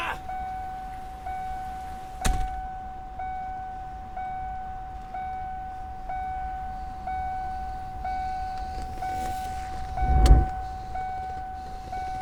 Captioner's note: door ajar ding, drones on